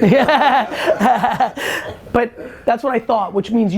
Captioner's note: laughter